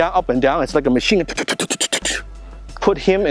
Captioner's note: imitates bullet noises